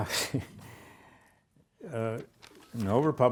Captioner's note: lecturer chuckles